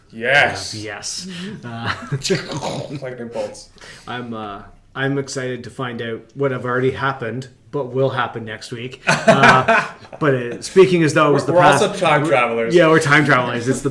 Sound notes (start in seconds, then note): 2.6 imitates thunder; 9.0 laughter